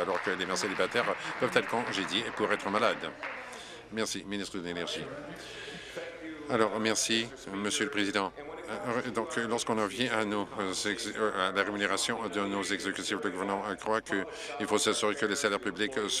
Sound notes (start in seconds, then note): 2.7 applause